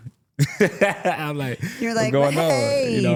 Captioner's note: laughs